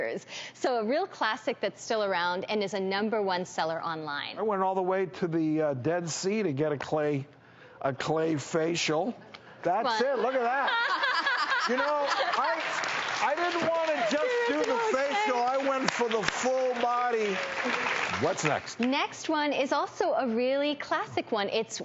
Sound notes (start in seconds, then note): 9.9 laughing